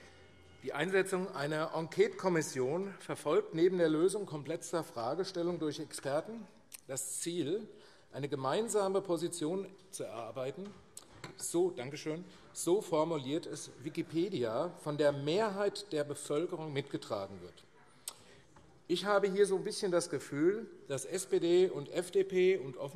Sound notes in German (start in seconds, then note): none